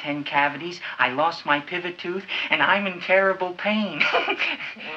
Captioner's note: chuckles